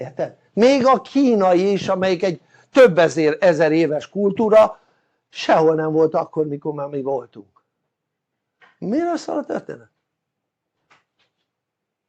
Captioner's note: laughter